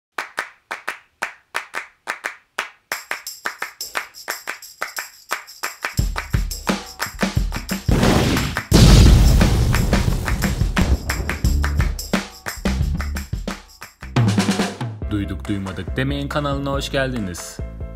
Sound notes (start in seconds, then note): 0.0 rhythm Applause Music; 7.9 impact Sound; 10.9 rhythm Applause Music